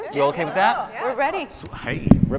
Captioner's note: scientists agreeing